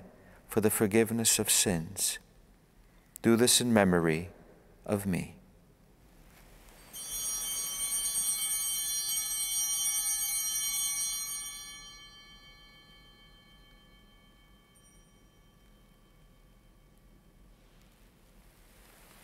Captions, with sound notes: "for the forgiveness of sins. "Do this in memory of me." (Bell ringing)